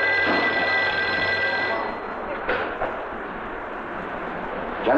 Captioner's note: phone ringing; machinery whirring